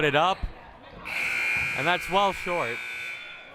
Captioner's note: buzzer blaring